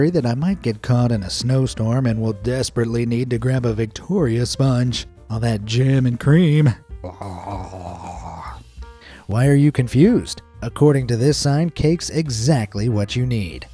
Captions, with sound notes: that I might get caught in a snowstorm and will desperately need to grab a Victoria sponge–all that jam and cream… [drooling noises]. Why are you confused, according to this sign cake’s exactly what you need!